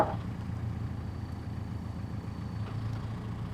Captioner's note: wood clanking